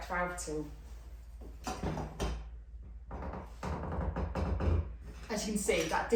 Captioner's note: valve tool bashing and creaking noises